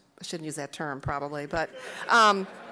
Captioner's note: laughing